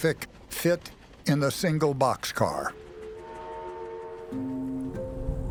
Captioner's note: train whistle blows